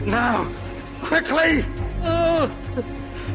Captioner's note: whimpers